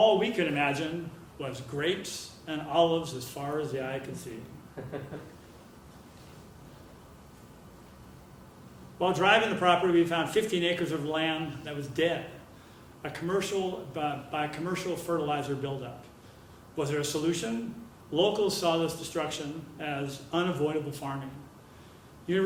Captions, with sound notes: All we could imagine was grapes and olives as far as the eye could see. >> [LAUGH] >> While driving the property, we found 15 acres of land that was dead by commercial fertilizer buildup. Was there a solution? Locals saw this destruction as unavoidable farming.